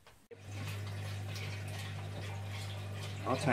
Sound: water gently splashing

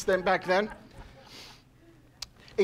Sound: laughing

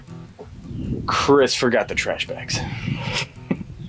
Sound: laughs

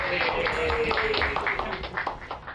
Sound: cheering

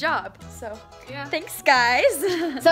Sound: chuckles

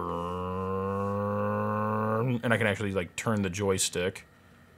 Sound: makes engine noise

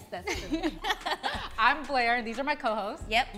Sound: all laugh

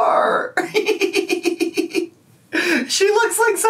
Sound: laughing

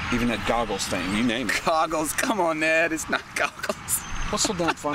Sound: laughs

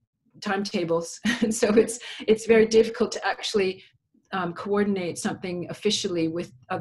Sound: laughs

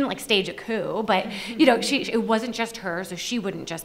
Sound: panelists laugh

